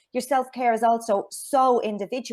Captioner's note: none